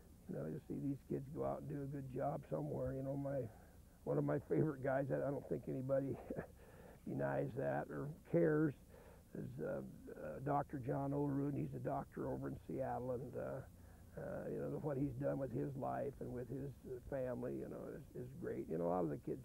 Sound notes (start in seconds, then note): 5.9 chuckles